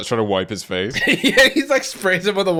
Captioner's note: laughing